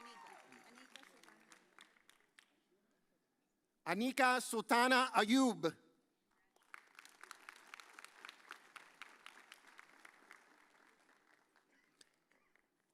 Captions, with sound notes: Anika Sutana Ayub. (audience applauds)